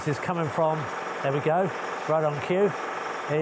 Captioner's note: drill whirring